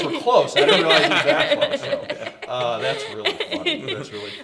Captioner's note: everyone laughs